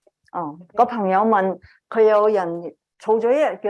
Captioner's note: speaking chinese